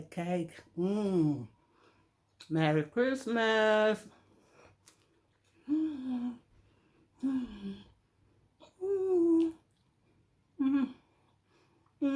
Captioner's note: humming